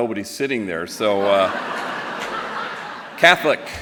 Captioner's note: laughter